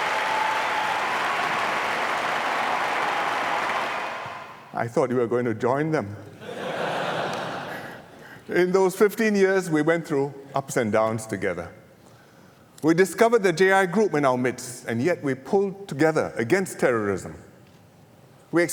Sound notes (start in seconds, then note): 6.4 laughter